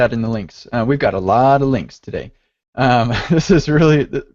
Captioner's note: laughs